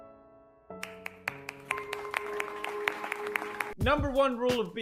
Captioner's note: applause